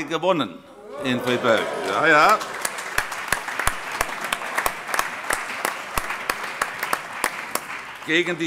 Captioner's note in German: Allgemeiner Beifall